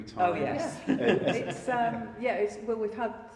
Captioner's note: laughing